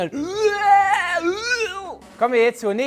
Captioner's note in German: Schreie